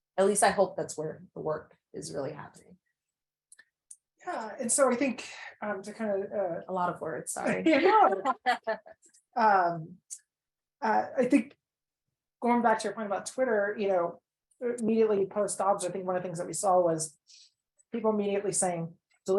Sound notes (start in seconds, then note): 7.4 people laugh